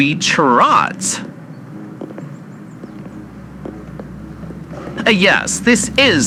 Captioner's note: both walking fx, city sounds increase